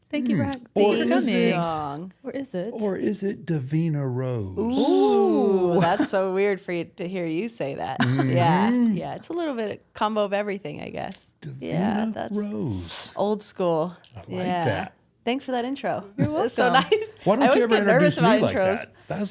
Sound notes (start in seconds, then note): 4.6 everyone exults